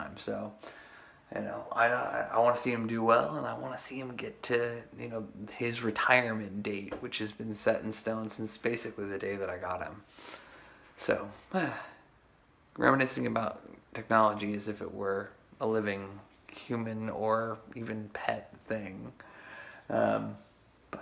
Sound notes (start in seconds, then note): 11.4 sighs